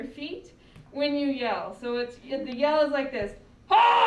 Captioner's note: groans